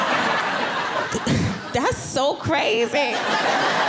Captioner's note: audience laughing